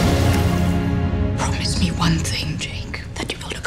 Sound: whispering

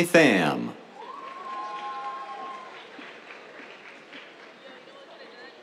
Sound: cheers, applause

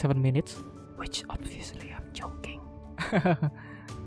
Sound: whispering

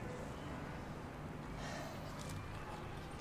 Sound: sighs

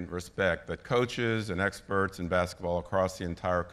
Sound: none

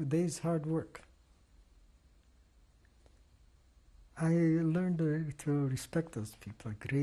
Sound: pauses for 3 seconds

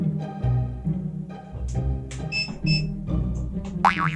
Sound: close door~

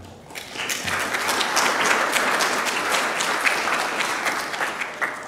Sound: audience clapping

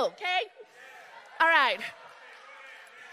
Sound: crowd cheering

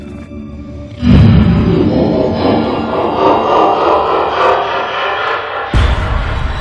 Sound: echoed, Low-Pitch Laughing

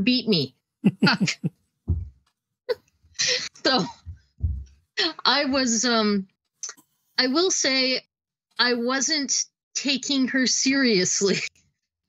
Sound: laughing

